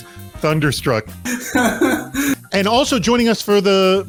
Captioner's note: man Two laughing